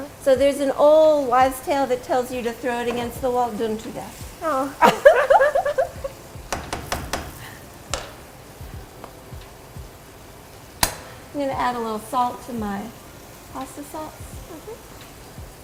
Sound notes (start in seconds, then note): 4.4 both laugh